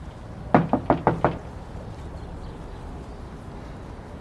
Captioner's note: knocking